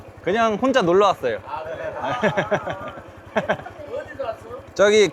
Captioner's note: locals burst out laughing